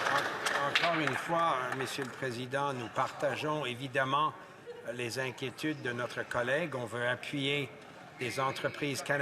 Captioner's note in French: applaudissements